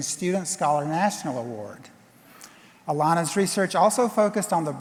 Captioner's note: none